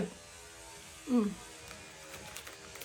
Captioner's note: loud sawing noise